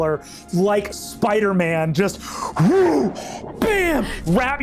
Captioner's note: imitates body whooshing